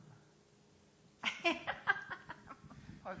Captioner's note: chuckling